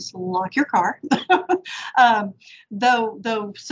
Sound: chuckles

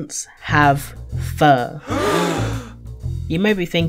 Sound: gasp

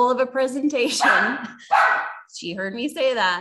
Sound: puppy barking

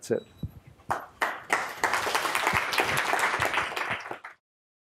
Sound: applause

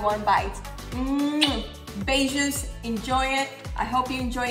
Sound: blows kiss

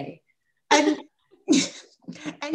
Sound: laughter

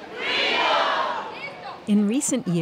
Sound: crowd

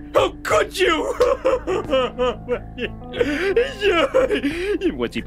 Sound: crying

